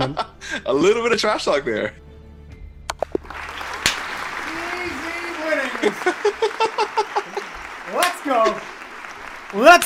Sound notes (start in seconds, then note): 3.0 applause